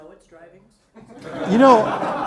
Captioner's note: audience laughs